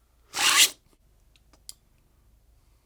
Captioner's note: slurps